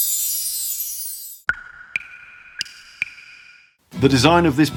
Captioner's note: water drips